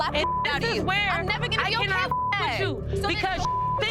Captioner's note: beeps